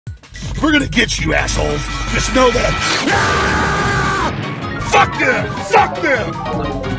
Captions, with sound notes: We're gonna get you assholes, just know that. (Explosion, Screaming) Fuck you, fuck them!